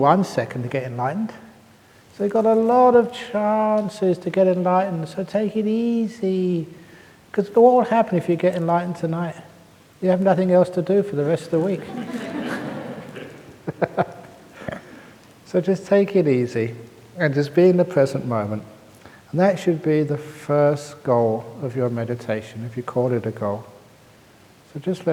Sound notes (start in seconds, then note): 15.0 laughs